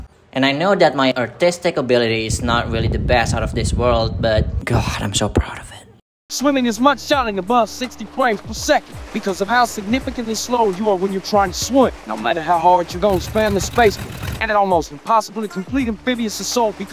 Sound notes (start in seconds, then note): 2.2 CAT 5 hurricane noises